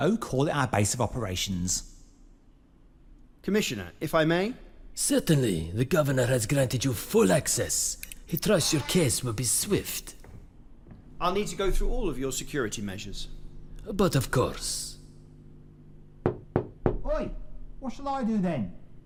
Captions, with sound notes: Oh call our base of operations. Commissioner if I may? Certainly. The governor has granted you full access. He trusts your case will be swift. I'll need to go through all of your security measures. But of course. (Knocks on window) Oi. What shall I do then?